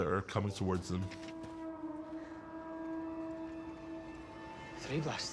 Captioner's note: horn blows three times